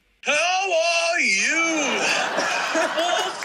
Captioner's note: laughter